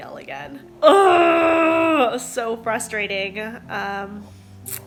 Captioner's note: grunting